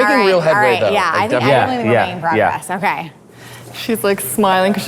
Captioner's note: group murmuring